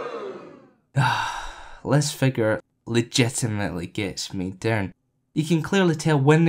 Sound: sigh

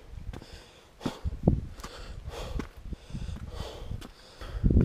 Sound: heavy breathing

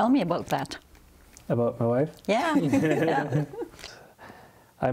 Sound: laughs

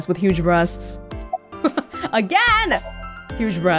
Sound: chuckles

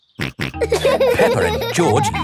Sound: laughing; snorts

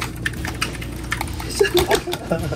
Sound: crazy clicking

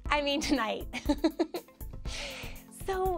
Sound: giggles

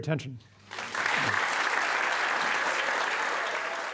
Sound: audience claps

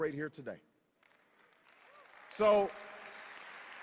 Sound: cheers

